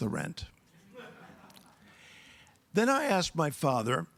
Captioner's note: audience laughs